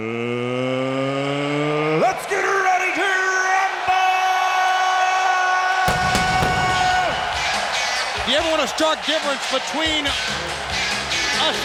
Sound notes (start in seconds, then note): 5.0 crowd cheering; 5.8 fireworks popping